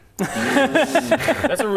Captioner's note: suspicious laughter